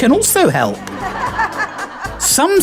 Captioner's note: laughter